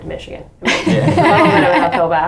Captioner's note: everybody laughing